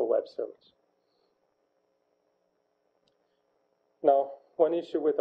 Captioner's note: pause